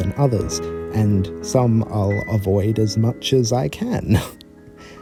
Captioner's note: chuckle